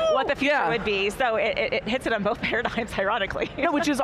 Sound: chuckles

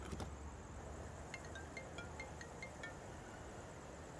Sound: phone rings

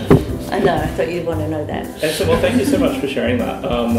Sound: laughter

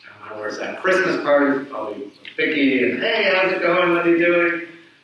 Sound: speaks away from mic

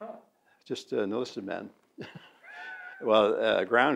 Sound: laughs

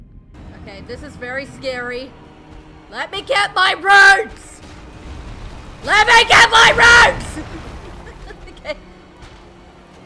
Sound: laughter

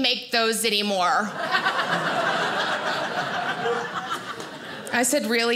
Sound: audience laughing

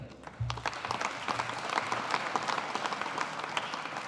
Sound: audience applauding

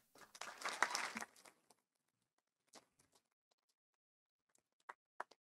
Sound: audience applauding

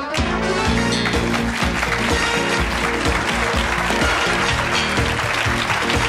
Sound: engaging music; crowd applauds and cheers

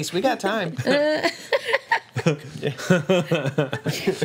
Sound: group laughs

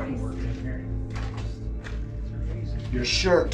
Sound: radio voice whispering

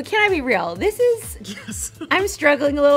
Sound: laughs

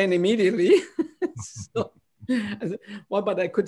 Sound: laughter

